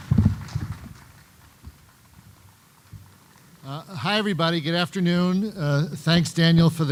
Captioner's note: applause